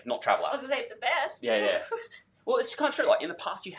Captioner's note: laughs